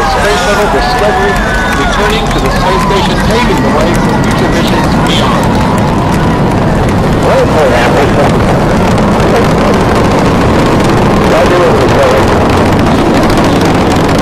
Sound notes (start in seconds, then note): 6.6 roaring of engines; 13.3 engine sound fades off